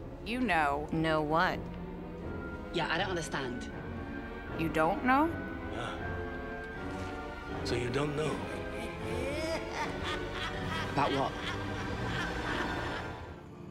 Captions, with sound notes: - You know. - Know what? Yeah, I don't understand. You don't know? So you don't know? *CREEPY FEMALE LAUGHTER* About what?